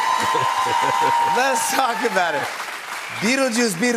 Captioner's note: cheers and applause; laughs